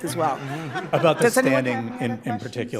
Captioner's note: audience laughing